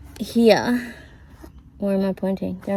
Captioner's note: none